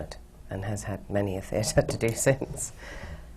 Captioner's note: laughs